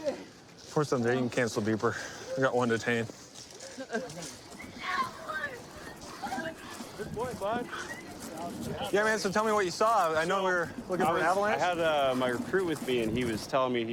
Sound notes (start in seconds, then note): 4.8 yelling